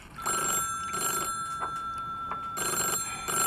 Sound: phone rings

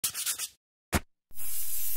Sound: pencil scratching; spray can hissing

